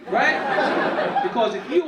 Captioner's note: audience laughing